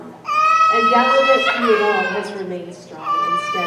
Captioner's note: baby continues crying